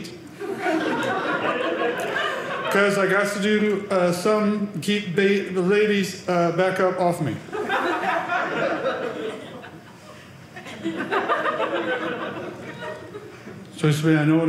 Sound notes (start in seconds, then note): 0.2 audience laughing; 7.4 audience laughing